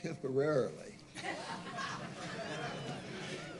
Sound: laughter

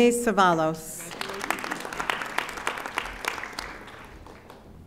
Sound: audience applauding

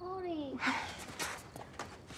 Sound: sighs

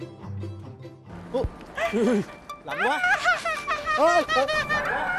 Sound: shivering

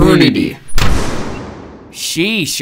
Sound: door slams

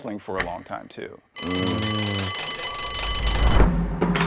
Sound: bell buzzing; upbeat drum music

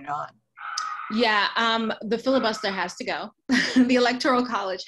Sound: laughs

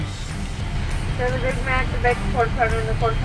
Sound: woman In Speakerphone

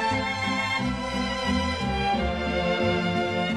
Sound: none

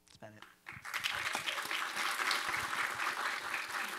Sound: applause

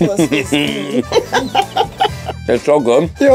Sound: laughs

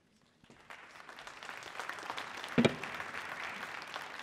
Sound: audience applauding

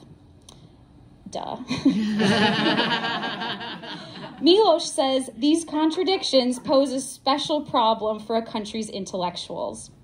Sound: laughs

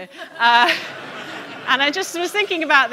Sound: audience laughing

